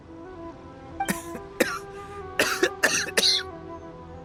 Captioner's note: coughing